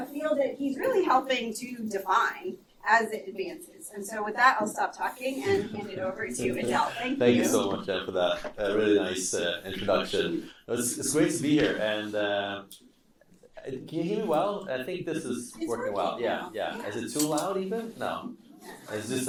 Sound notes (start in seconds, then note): 5.4 and students laughing